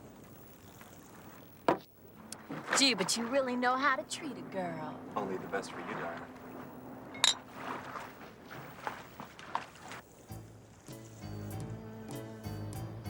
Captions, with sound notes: - Gee, but you really know how to treat a girl. - Only the best for you, darling. (bottles clinking) (silly music)